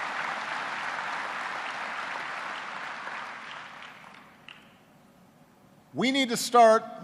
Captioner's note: applause